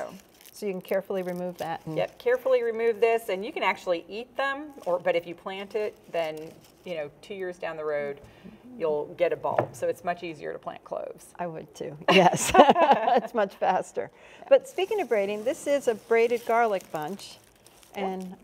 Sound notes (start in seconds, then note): 12.0 laughing; 12.1 laughs